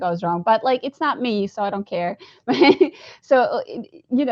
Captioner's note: laughs